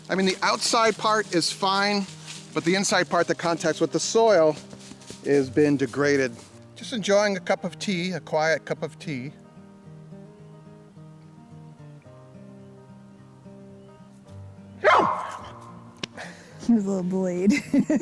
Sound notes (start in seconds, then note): 14.8 barking